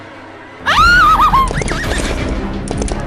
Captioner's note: Iliya screaming; Quarrit whinnies